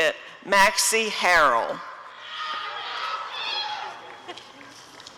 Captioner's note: applause and cheering